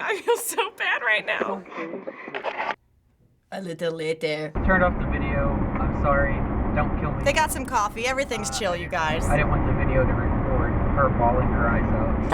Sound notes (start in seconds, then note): 3.4 French accent